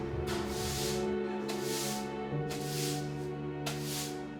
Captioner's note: sweeping